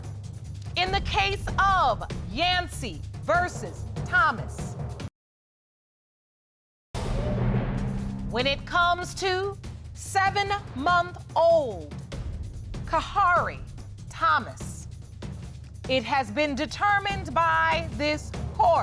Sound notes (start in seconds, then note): 6.1 audience groans